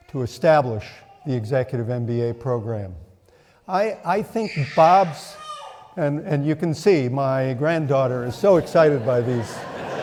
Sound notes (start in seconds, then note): 4.6 child loudly exclaims; 9.7 audience laughing